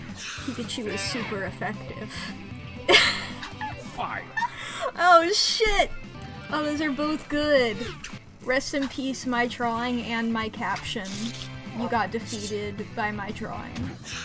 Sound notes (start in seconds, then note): 2.8 laughs